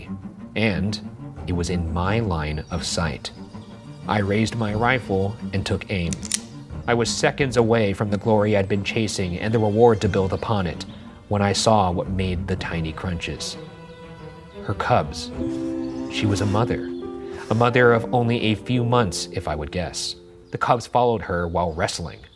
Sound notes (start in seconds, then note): 6.1 rifle cocks; 16.1 tender music